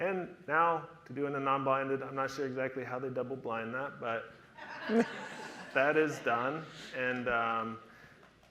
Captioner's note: audience laughter